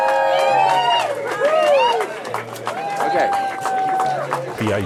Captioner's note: cheering